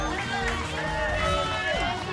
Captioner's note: cheers and applause